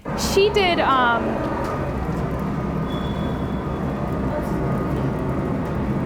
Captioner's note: train station roaring